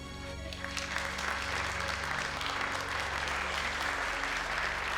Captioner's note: crowd applauding